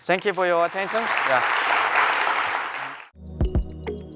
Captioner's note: applause